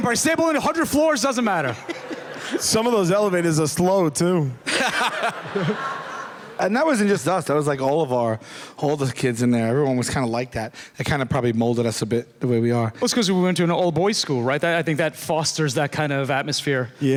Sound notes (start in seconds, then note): 4.6 laughter